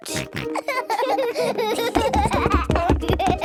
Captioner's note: both laughing